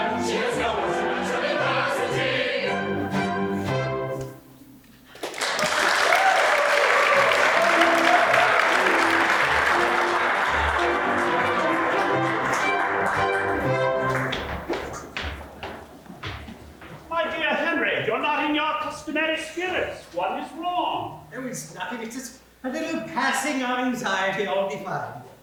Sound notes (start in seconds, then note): 5.1 applause